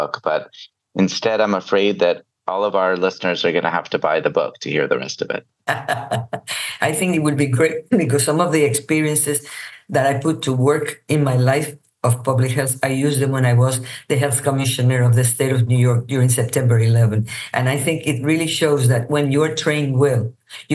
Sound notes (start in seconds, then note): 6.5 laughs